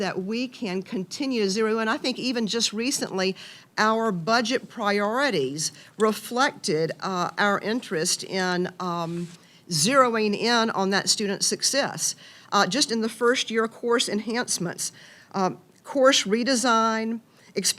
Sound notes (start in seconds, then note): none